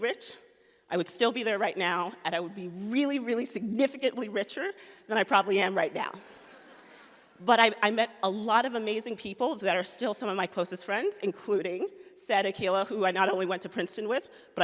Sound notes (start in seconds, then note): 6.4 audience laughs